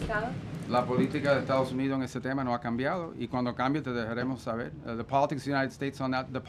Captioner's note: in Spanish; in Spanish